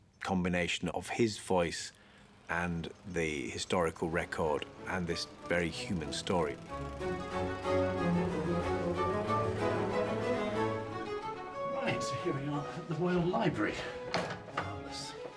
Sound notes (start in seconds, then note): 6.1 lawnmower humming; 6.1 stately instrumental music